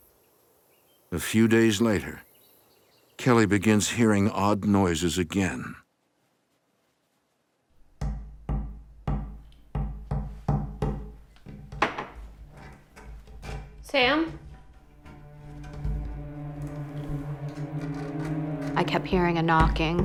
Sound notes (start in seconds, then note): 0.0 birds chirping; 7.9 knocking